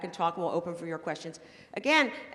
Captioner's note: none